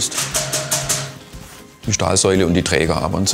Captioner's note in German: Klopfen